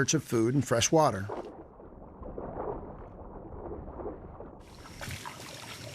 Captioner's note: footsteps echoing